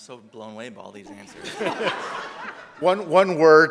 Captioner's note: audience laughs